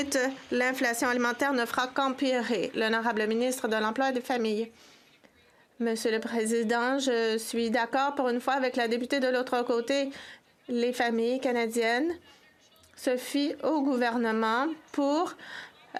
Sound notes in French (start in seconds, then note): 6.6 voix de l'interprète